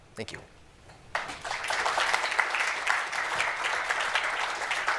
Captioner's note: applause